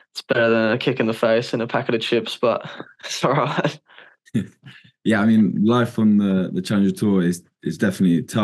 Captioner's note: laughs